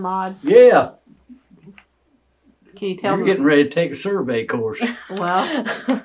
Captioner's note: laughter